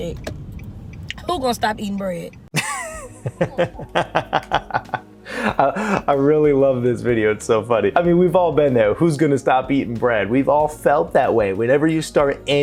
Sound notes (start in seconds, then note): 2.5 laugh